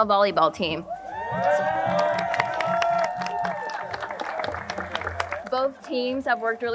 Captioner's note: crowd cheering and applauding